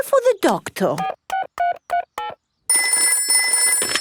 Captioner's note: dialing; telephone ringing